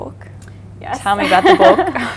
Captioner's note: laughs